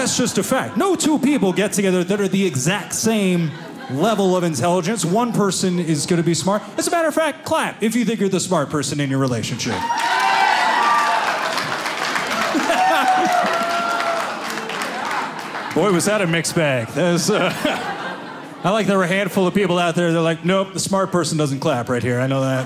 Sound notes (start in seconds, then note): 9.7 audience clapping; 16.7 audience laughing